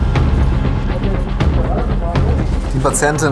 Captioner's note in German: Dynamische Musik; Stimmengewirr